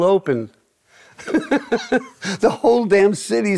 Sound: laughing

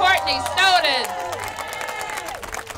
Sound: applause

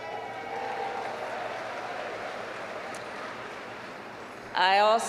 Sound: applause

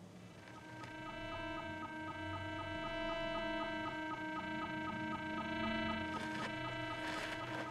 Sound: continuous electrostatic beeping

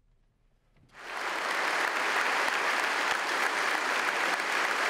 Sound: audience applauds

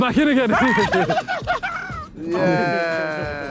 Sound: screaming

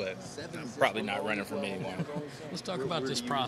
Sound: interviewer laughing

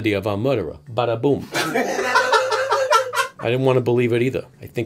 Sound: laughter

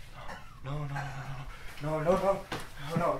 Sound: wheezing

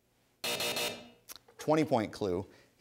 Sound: buzzing

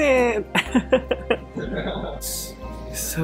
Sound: laughs

